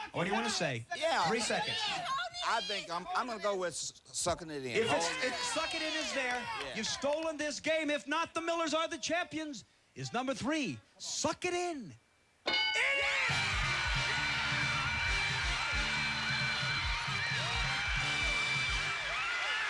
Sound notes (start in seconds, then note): 12.8 cheers and applause